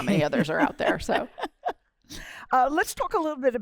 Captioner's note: laughter